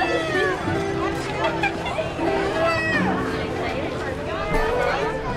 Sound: crowd talking

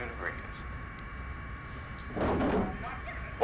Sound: loud clunk

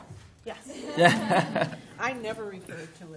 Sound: laughter

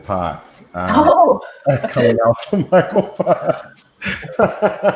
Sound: laughs

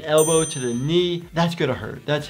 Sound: loud dinging

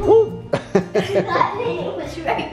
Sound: laughter

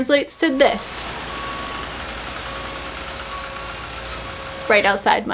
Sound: intense construction noises

